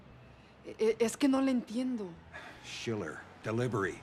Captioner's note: woman speaking Spanish